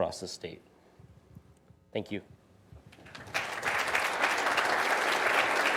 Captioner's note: audience applauding